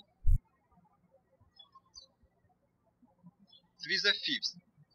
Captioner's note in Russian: птички щебечут